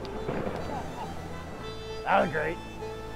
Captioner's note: laughing